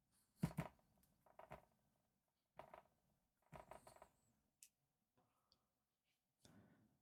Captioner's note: silence